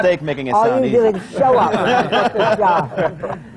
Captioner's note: laughter